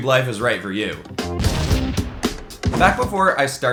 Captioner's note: explosion booms